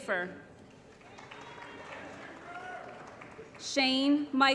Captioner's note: applause & Cheering